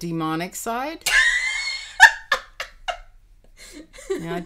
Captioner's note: laughing